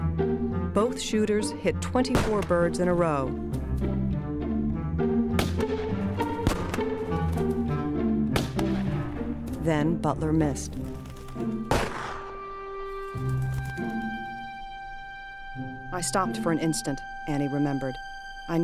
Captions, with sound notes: Both shooters hit 24 birds in a row. (gunshots) Then, Butler missed. (gunshot) "I stopped for an instant," Annie remembered.